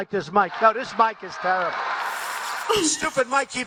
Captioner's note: audience applauds loudly